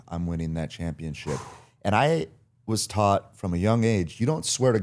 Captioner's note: Cody exhales